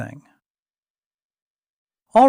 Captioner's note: pause